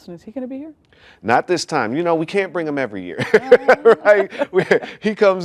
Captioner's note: laughs